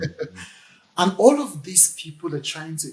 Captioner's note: laughs